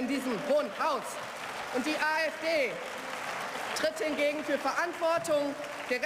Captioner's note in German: Beifall